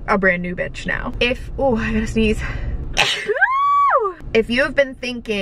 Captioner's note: sneezing